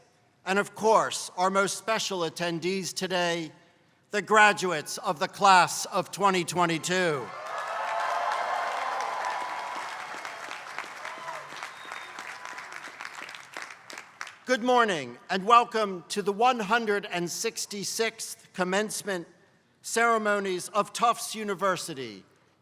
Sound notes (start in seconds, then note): 7.2 applause